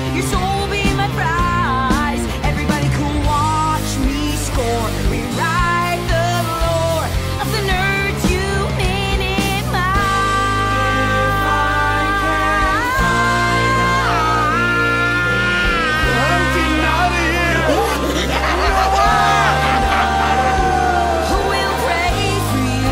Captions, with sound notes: your soul will be my prize everybody cool watch me score rewrite the lore of the nerds you minimised! -I’m getting outta here! *evil laughter* who will pray for you